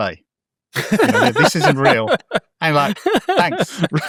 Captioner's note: laughing